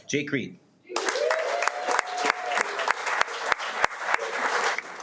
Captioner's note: audience applauding